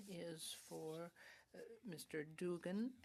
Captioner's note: speaking French